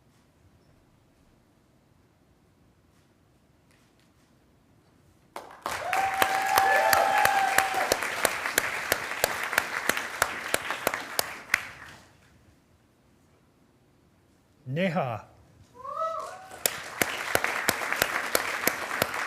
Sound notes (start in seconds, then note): 5.3 attendees applauding and cheering; 16.2 attendees applauding